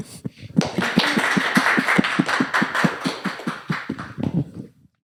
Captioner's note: applause